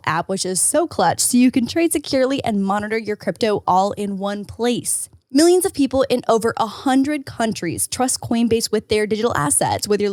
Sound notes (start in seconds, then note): none